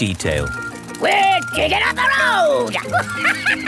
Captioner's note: chuckles